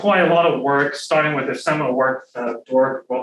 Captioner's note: faintly speaking